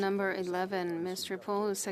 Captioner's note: speaking French